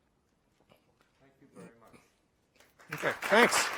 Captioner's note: voiceover